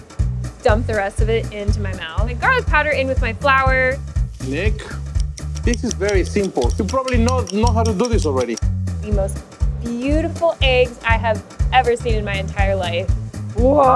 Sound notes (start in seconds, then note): 5.2 glass tapping